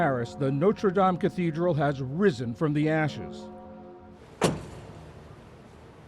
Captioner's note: bells